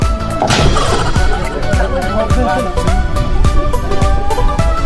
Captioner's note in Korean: 꽈당....ㅜㅜ